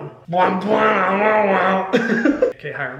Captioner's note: Hyram humming; Hyram laughing